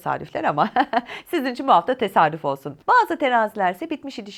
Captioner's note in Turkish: kahkaha